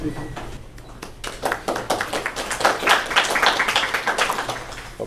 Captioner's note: applause